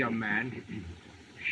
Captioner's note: clears throat